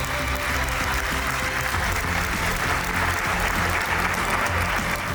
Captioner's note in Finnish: aplodeja